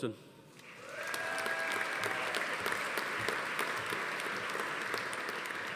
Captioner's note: attendees cheering; audience applauding